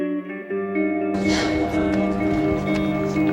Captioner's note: Alice sighs